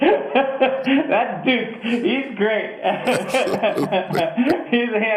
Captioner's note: laughter